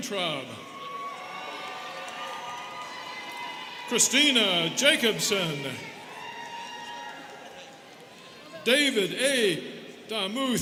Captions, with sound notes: (students cheering) Christina Jacobson. (students cheering) David A. Damuth.